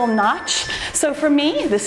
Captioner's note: timer beeps